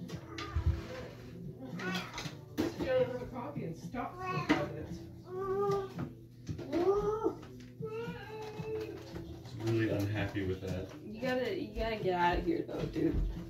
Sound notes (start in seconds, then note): 0.2 cat meows; 6.2 imitates cat meows